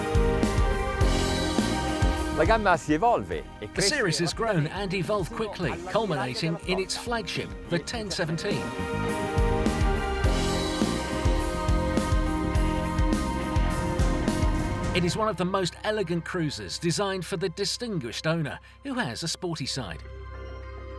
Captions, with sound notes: (speaking in a foreign language) The series has grown and evolved quickly, culminating in its flagship, the 1017. (upbeat music) It is one of the most elegant cruises, designed for the distinguished owner who has a sporty side.